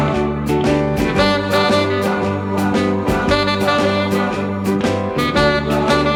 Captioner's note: none